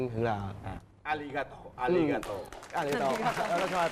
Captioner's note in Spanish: habla en japonés; Aplauso